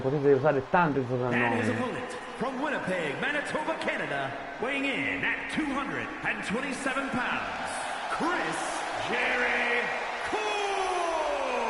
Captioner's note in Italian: Applauso